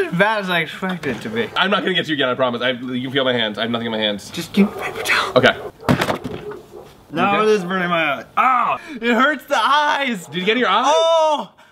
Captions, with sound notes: It wasn't as bad as I expected it to be. - I'm not going to get you again, I promise. You can feel my hands, I have nothing in my hands. - Just give me a paper towel. - Okay. (thump) - Now this is burning my eyes. Ow, it hurts the eyes. - Did you get it in your eyes?